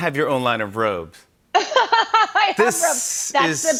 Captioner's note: laughs